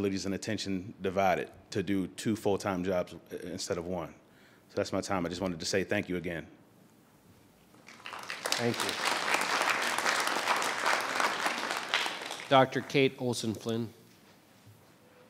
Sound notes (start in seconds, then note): 7.8 audience applauding